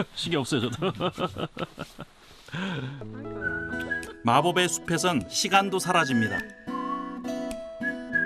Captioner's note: laughter